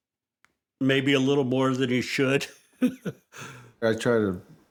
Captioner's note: laughs